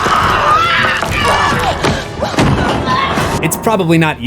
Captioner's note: screams